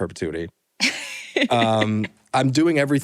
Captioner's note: laughter